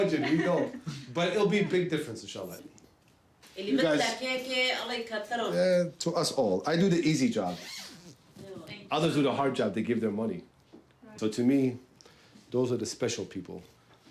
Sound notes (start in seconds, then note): 3.2 non-english speech